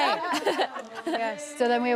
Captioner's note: laughter